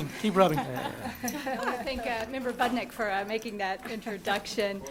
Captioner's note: laughter